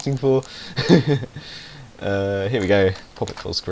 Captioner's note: he laughs